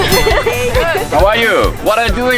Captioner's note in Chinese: ~英語對話開始~